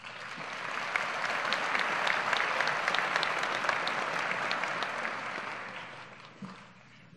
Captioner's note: applause